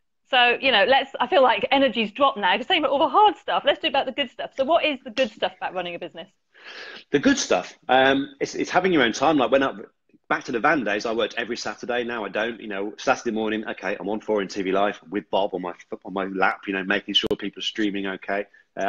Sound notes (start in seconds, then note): none